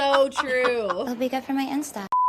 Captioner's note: screen beeps